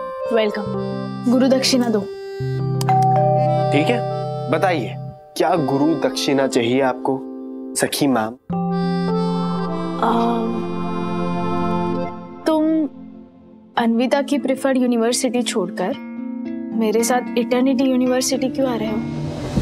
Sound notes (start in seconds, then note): 2.8 doorbell rings